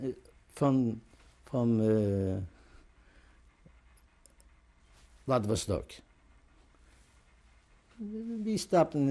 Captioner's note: pauses for 3 seconds